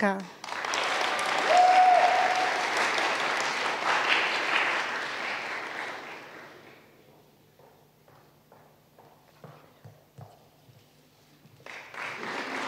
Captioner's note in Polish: oklaski